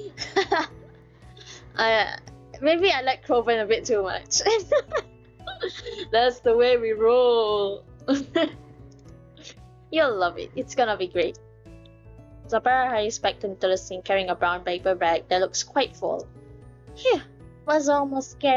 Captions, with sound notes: haha Maybe I like Crowven a bit too much *laughs*